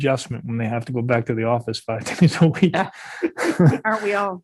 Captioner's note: laughs